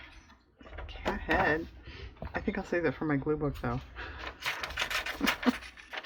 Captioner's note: laughs